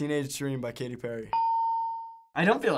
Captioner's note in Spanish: ding